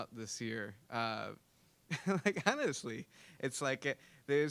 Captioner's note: laughing